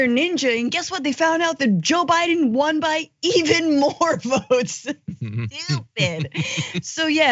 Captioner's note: laugh